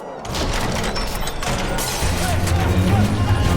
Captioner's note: commotion, glass shattering; frightened screams